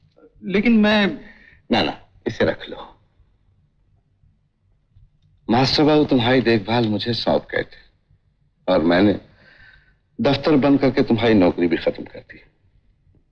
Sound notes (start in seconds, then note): none